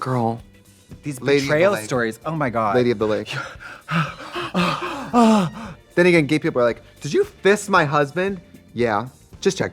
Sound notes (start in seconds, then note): 3.2 both moaning